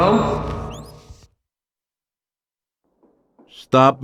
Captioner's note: awkward silence